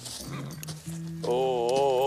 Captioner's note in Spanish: Relinchos